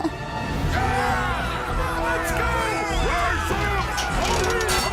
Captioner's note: chuckles nervously; mummies clamoring; clamoring continues